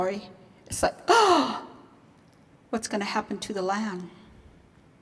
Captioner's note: gasps